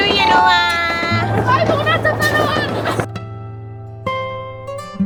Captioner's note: speaking German